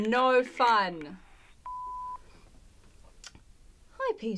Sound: tone sounds

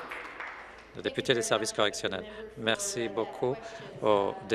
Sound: applause

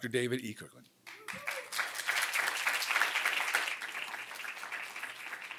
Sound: applause

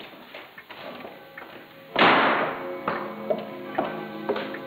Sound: clock chiming

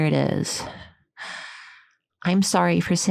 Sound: sighs

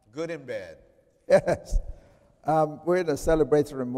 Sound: chuckling

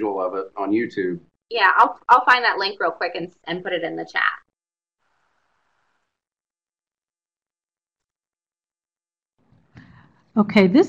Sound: brief silence

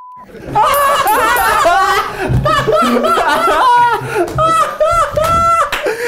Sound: beep; laughing; bell ringing

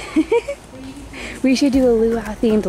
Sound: laughing

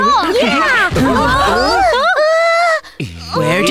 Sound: gasps

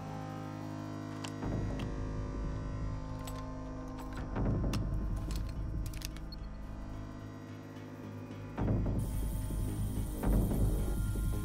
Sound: buzz

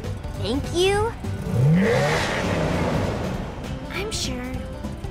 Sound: revs engine in the same time

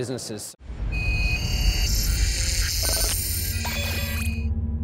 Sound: loud digital sounds

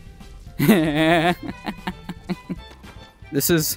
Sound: maniacle laughter

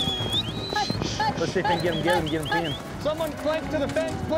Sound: whistling; chattering, yelling

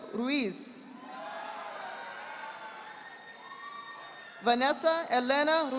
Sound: audience applauding

